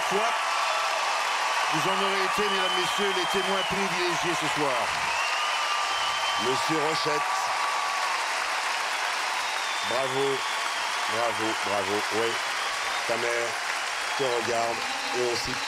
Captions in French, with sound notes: mesdames et messieurs, les témoins privilégiés ce soir. (applaudissements) - M. Rochette... (applaudissements) Bravo! Bravo, bravo! - Oui. Ta mère te regarde et on sait pour qui tu l'as fait